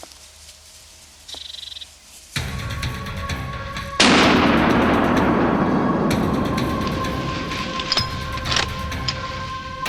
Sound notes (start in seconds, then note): 4.0 gunshot; 7.5 intense music